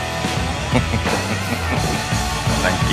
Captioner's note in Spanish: Risas